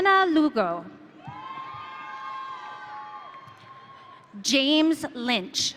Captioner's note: audience cheering